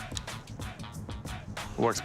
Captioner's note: click-click